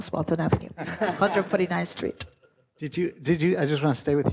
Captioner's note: everyone laughs